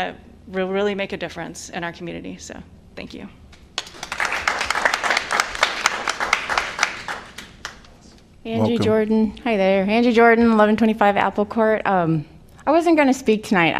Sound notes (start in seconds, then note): 3.7 applause